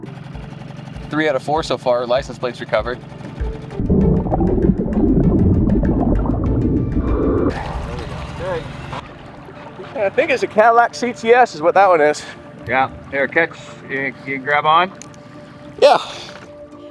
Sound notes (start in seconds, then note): 0.2 boat motor hums; 3.7 water bubbling